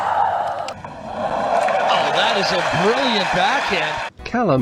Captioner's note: cheer